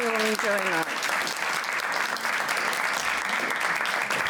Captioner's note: applause